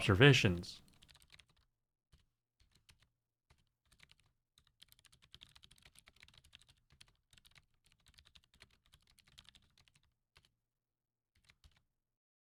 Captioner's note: typing